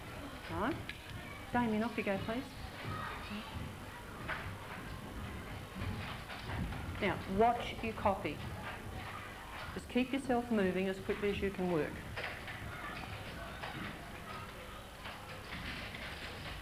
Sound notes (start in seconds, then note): 4.0 sound of typing; 12.9 sound of typing